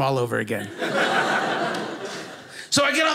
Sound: audience laughing

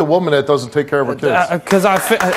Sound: applause

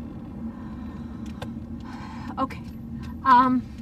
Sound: wind blowing; sigh; wind blowing

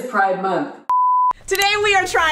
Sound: electronic beeping

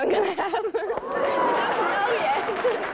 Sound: laughter

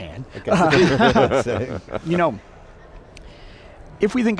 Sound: everybody laughing

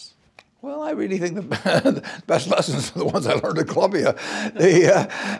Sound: laugh

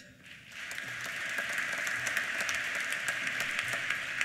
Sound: applause

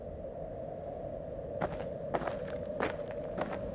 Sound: footsteps

